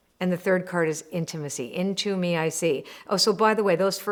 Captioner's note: none